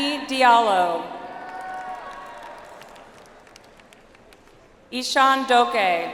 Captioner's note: audience applauds